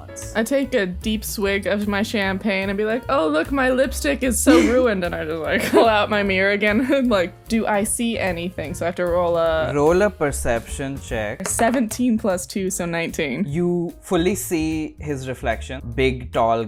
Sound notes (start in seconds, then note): 5.5 laughter